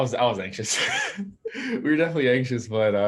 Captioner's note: laughs